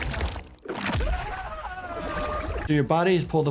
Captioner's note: fighter screams